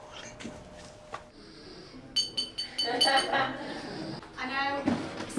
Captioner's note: clinks glass and everyone laughs